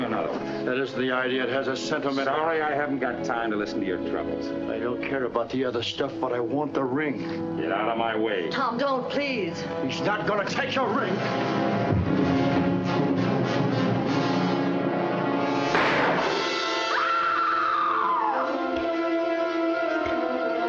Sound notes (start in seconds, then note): 11.3 intense music; 15.7 gunshot; 16.8 Mrs. Creel screaming